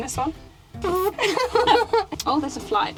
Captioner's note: small fart noise